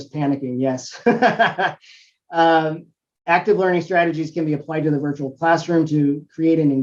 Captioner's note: laugh